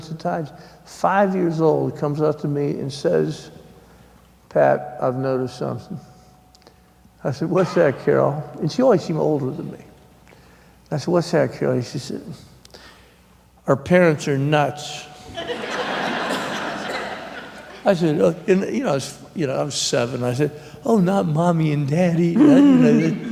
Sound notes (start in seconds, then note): 17.3 laughter